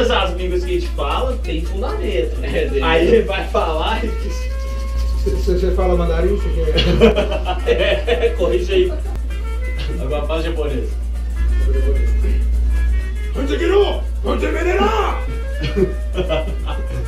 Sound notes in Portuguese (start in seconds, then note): 13.2 imitando em japonês